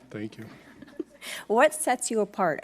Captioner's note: giggling